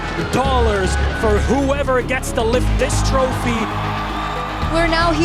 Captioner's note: crowd cheering